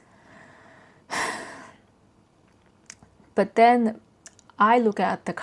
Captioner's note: sighs